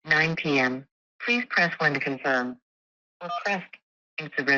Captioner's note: keypad beeps